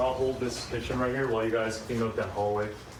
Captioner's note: none